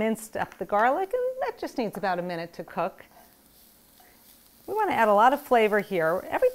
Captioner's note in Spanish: crepitando